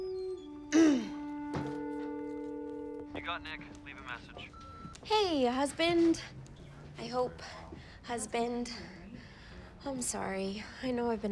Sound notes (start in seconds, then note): 0.1 grunts angrily; 2.2 telephone line ringing